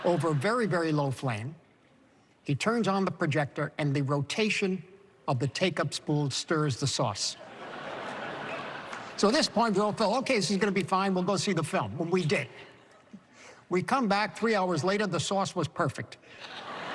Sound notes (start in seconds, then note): 7.3 laughter